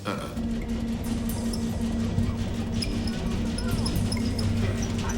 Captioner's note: fan clattering